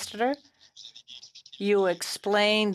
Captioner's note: speaking French